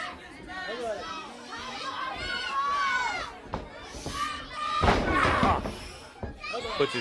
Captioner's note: crowd chatter